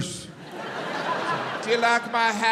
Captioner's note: crowd laughs